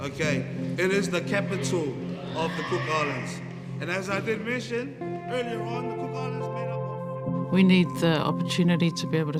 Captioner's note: voice fades